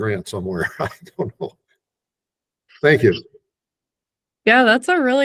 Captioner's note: laughs